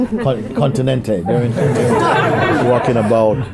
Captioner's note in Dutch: gelach